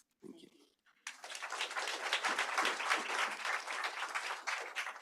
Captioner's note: applause